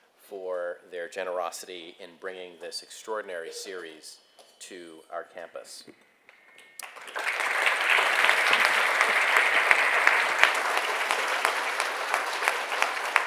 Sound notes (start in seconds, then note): 6.8 attendees applauding